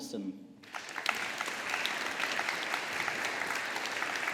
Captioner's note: audience applauding